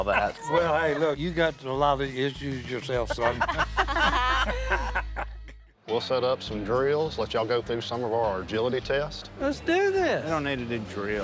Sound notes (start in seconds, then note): 3.0 group laughing